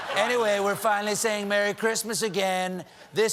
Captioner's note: laughter